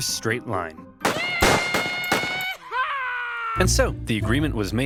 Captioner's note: gunshots